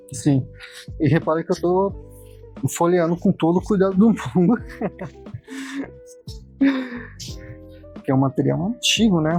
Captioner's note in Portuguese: risadas